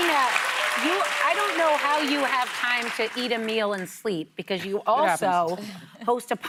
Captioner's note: applause